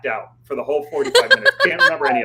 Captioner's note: laughs